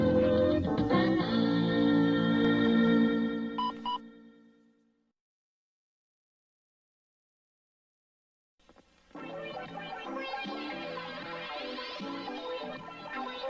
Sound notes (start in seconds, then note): 3.6 beeping; 5.1 silence